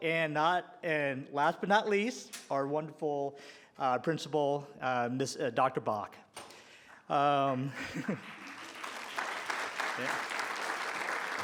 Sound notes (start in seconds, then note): 7.8 applause